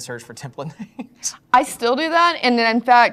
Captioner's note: laugh